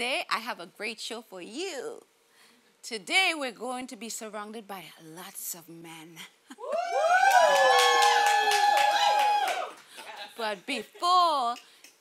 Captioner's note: audience hooting